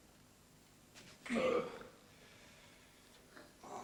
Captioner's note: he belches